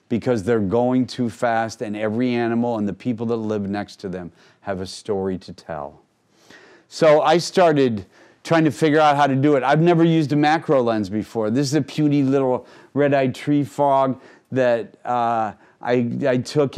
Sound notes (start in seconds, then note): none